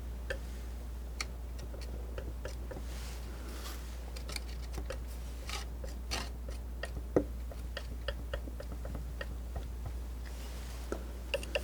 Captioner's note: tapping